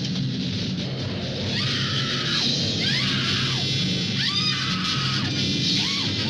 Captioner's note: screaming